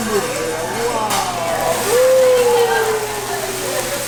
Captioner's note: fire sizzling